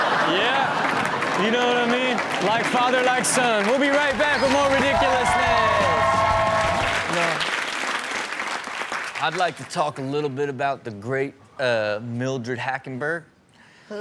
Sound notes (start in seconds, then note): 0.0 audience laughing; 5.7 audience cheering; 5.7 rock music